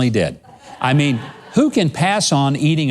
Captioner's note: laughs